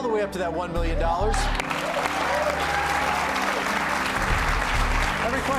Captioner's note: cheers and applause